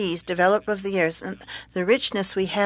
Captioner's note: speaking French